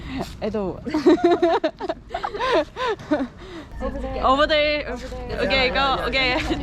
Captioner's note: laughing